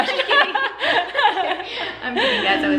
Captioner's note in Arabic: كلاهما يضحك